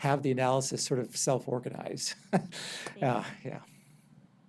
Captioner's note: chuckles